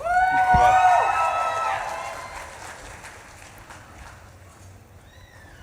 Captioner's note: audience cheering drowns out speech